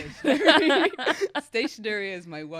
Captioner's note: laughs